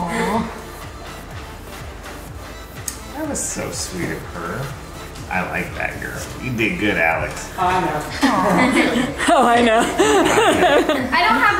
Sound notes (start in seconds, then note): 0.2 upbeat music; 7.6 people laughing; 10.3 laughs